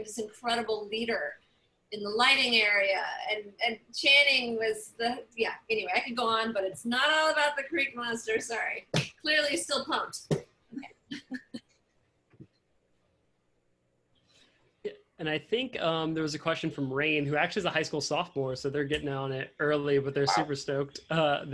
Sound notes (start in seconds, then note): 10.1 laughter